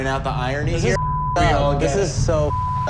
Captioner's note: beep